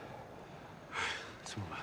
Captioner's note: sigh